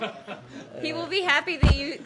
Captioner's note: laughter